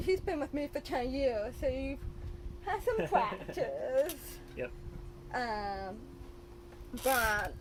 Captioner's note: laughs